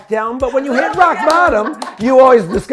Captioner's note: DJ laughing